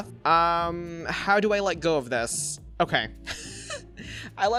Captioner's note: chuckles